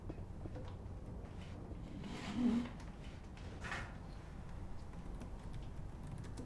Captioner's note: pulling up chair; typing on laptop